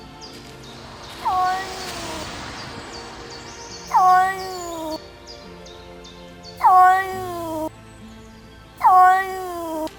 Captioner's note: cat meows; cat meows plaintively